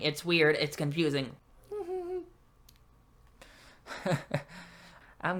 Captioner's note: normal nervous laughter; weird laugh